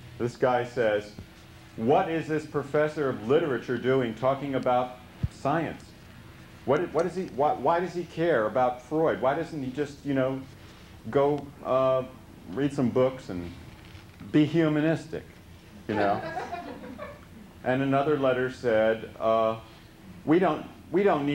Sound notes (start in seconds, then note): 15.9 laughter